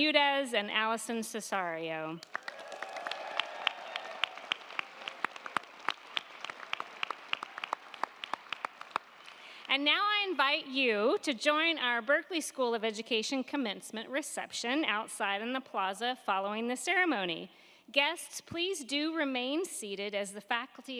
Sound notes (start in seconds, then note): 2.2 crowd clapping; 2.2 crowd cheering